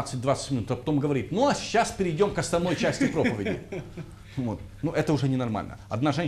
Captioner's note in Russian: смех